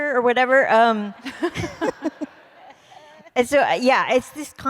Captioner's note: laughter